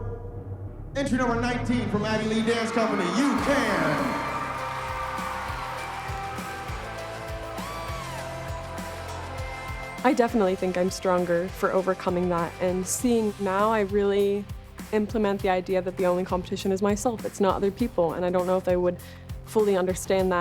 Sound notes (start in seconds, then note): 4.2 applause and cheering